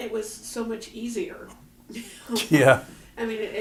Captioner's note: laughter